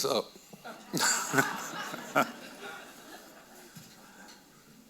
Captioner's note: audience laughing